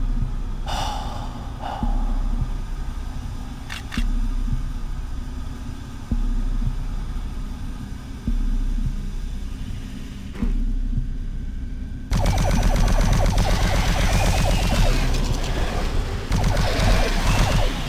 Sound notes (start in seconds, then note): 6.8 ticking; 15.9 gunfire